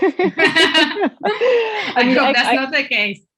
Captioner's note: laughing